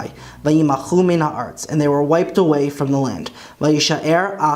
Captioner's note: Hebrew